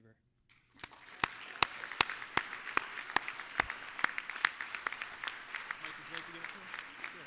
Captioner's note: applause